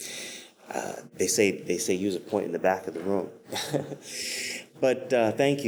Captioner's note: laughs